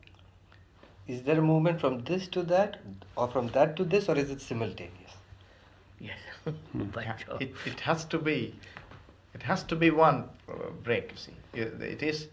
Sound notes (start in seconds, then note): 6.4 laughs